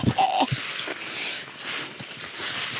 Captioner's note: laughs